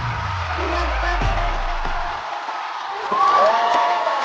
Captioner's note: round of applause for performers